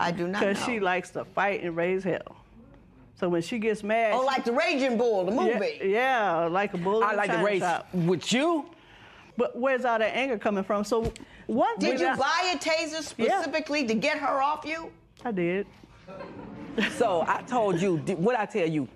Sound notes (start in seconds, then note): 16.0 laughter